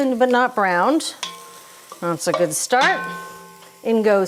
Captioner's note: vegetables sizzling